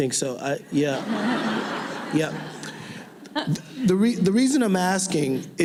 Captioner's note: laughing